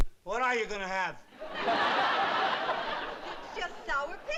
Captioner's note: laughter